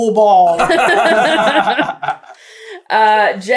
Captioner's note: laughter